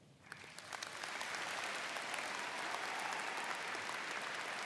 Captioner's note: audience applauds